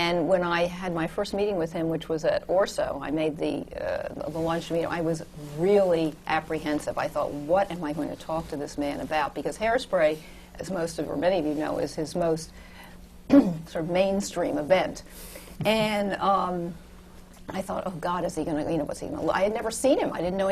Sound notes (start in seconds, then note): 13.3 clears her throat